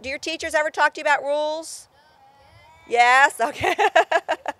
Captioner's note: laughter